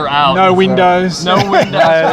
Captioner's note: laughter